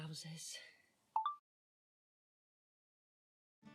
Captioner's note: chime of a phone recorder turning off